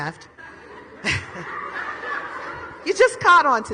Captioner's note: audience laughs